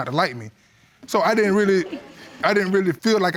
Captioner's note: audience chuckle